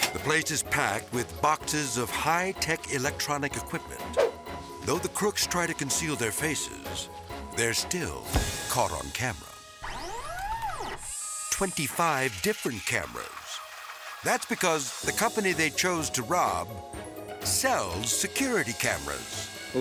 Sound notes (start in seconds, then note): 4.0 transition whips; 9.8 camera lenses whirring